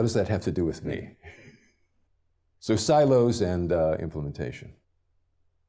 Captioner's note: laugh